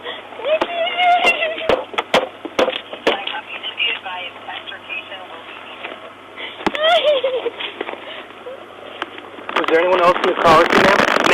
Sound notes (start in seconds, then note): 1.1 crying and pounding; 6.7 crying